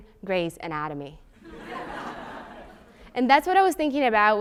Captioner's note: laugh